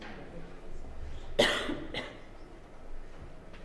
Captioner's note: cough